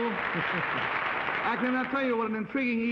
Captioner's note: chuckling